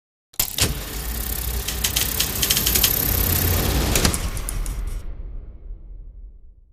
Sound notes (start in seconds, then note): 0.3 film whirring